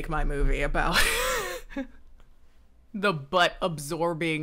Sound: laughs

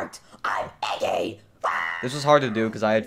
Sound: screaming

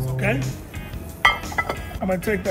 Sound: plate clinking

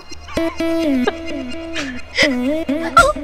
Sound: giggling

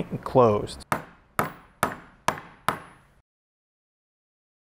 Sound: hammer tapping

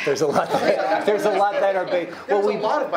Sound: speech drowned out by laughing

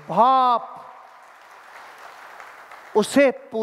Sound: rounds of applause

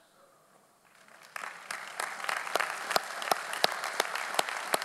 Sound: audience applauding

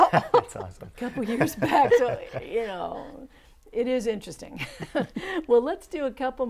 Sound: laughing

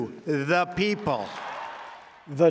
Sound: cheers and applause

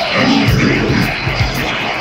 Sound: snarling

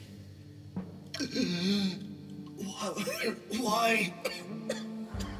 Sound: gasping

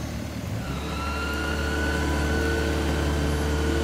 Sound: high-pitched whirring

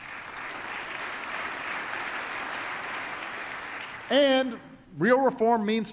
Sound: applause

